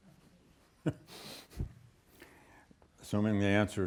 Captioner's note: laughs